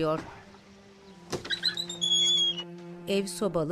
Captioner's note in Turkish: Kapı gıcırtısı sesi